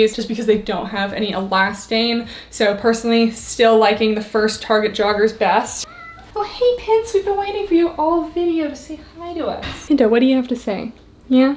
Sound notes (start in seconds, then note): 5.8 cat meowing